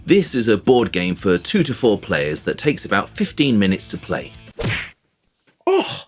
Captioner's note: punch sound